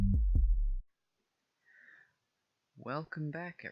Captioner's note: breathes in